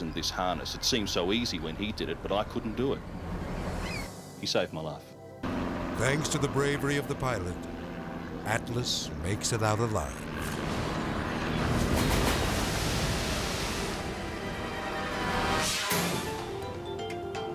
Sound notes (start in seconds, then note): 5.3 helicopter whirring; 9.9 helicopter whirring; 10.3 water splashes; 14.9 screen whooshes